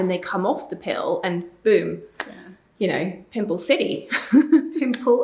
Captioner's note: laughing